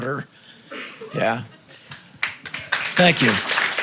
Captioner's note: applause